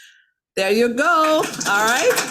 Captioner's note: attendees clapping